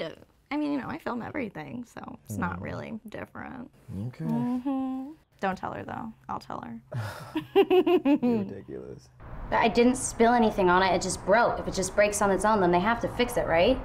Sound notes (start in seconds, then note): 7.0 laughing